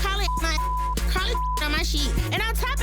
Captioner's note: beep